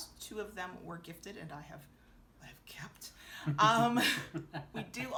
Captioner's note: chuckling